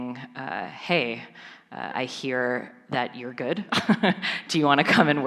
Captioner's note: chuckles